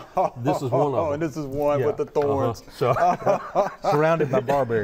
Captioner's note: laughing